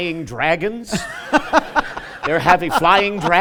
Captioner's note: laughter